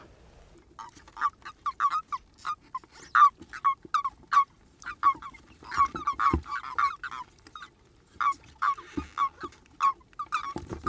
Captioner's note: chirping sound from frogs and toads in the buckets